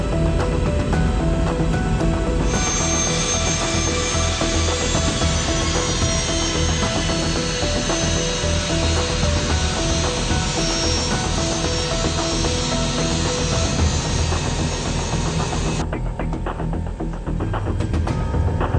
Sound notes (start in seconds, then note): 2.6 plane engine whirring; 16.0 tense music